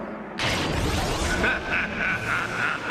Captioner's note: evil laughter